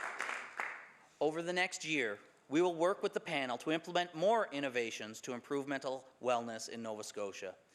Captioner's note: some Applause